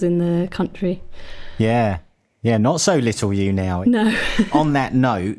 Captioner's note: laughs